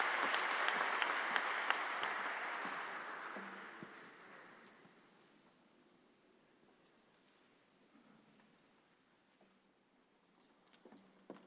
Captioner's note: applause